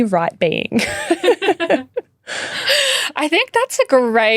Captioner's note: chuckling